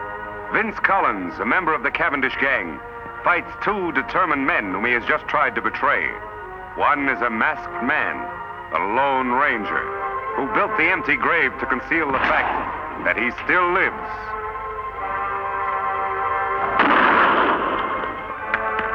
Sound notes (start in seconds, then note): 16.7 gun fires